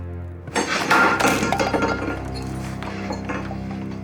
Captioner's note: dishes clanging; suspenseful music